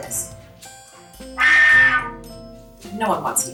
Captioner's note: airy sound, no tone